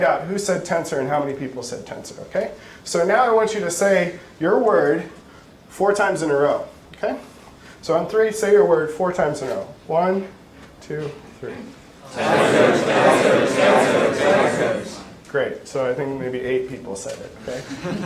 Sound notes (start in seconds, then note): 12.1 audience chanting words